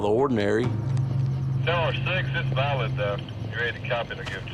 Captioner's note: police radio chatter